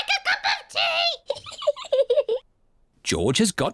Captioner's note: giggles